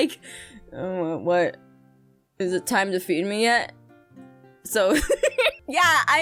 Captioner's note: laughs